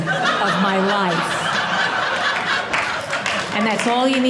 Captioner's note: audience laughing